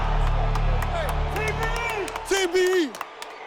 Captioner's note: cheers and applause